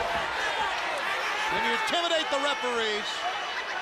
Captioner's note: crowd chatter